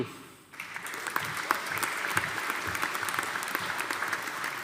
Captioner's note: audience applauding